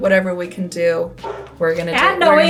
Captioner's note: dog barking